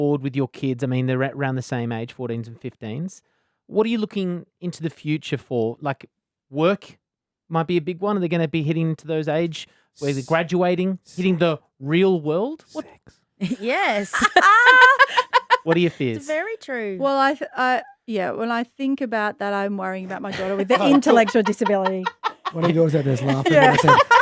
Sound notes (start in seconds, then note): 14.8 whispers; 17.0 laughing